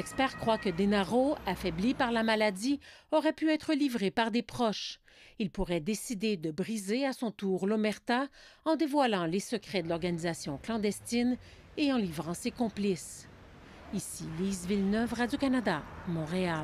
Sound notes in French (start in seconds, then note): 0.0 sirènes